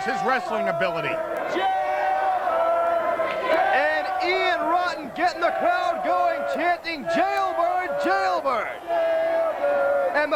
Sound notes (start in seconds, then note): 6.0 crowd chatter